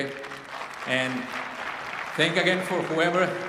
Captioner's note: applause